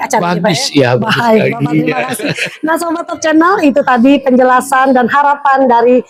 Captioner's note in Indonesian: tertawa